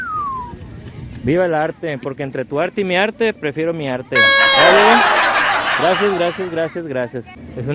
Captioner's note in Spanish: risas